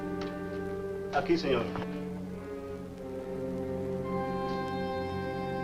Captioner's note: Mario speaks Spanish